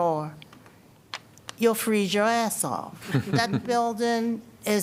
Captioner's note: laughter